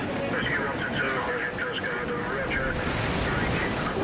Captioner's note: radio vocalizing; water whooshing